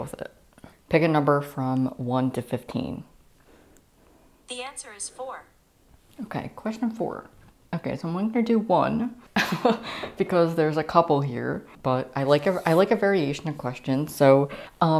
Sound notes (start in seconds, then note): 9.3 laughter